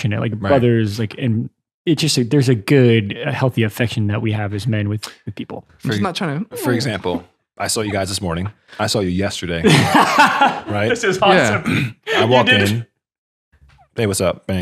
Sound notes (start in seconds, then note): 9.6 laughing